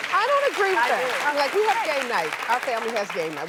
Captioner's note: crowd applauds